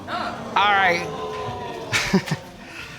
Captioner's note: chuckles